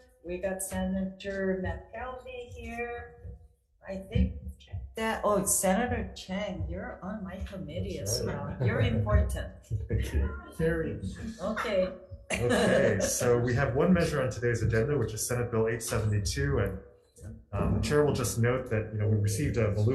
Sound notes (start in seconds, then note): 12.3 laughter; 12.3 laughs